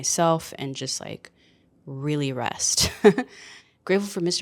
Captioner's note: chuckles